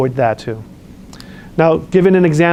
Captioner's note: lip smacks